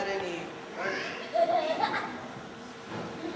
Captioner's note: soft laughter